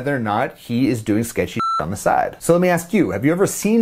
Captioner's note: beep